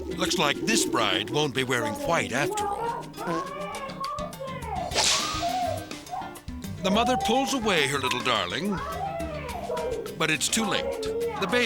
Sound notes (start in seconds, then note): 2.8 people chattering